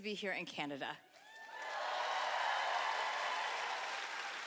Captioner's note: cheering